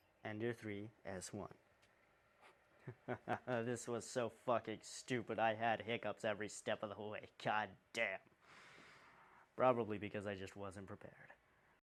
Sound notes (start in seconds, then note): 2.8 the laughter of someone clearly losing it; 8.5 sigh of disappointment in ones' self